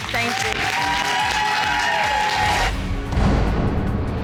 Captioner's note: audience cheering, applauding; dramatic music playing